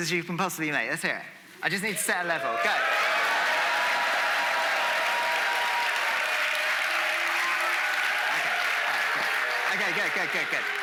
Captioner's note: audience making noise